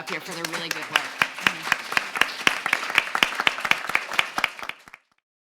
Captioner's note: audience clapping